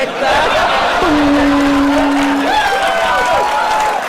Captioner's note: gong; laughter